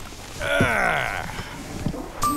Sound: grunts

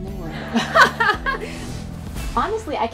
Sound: laughs

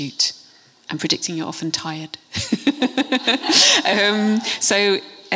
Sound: laughs

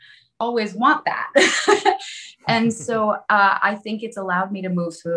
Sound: chuckles

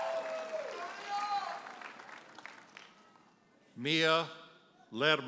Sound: audience cheers and applauds; audience member hollers

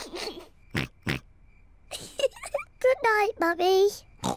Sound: oinks; giggles; oinks

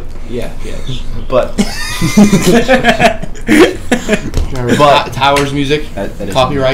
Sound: all laugh

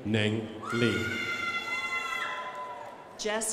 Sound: crowd applauding

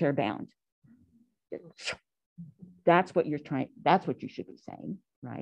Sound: scoffs

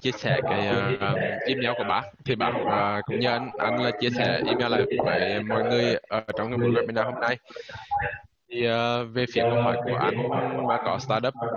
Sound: speaking Vietnamese

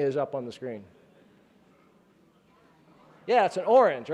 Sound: chattering

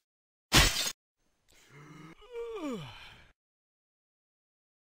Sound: yawn

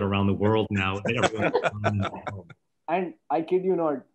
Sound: laughter

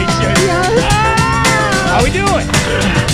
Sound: cheering

